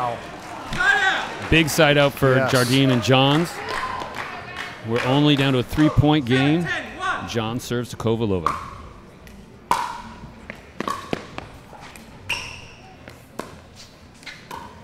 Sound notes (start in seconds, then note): 1.3 audience applauding; 9.6 ball bouncing